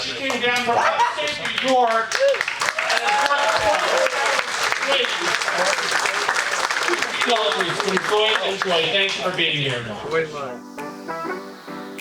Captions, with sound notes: She came down from the state of New York. (audience applauding) She drove 24 hours straight to feed all of you. Enjoy, enjoy, thanks for being here. (upbeat music)